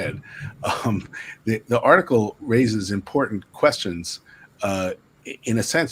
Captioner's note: laughs